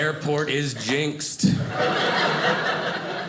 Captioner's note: audience laughing